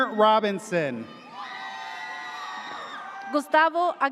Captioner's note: audience cheers